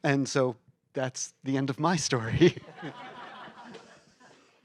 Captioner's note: laughter